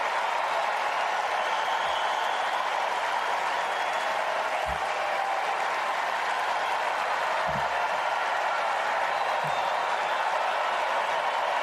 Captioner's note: cheers and applause